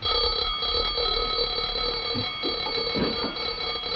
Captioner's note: bell ringing